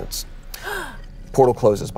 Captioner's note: gasps